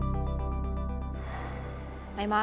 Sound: sighs

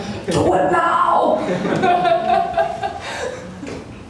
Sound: laughter

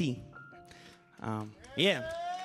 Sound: audience applauding

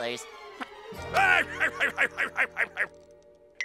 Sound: laughing

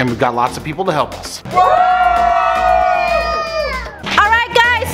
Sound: everyone screams

